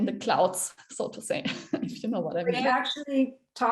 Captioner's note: chuckles